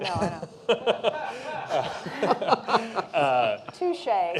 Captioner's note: laughter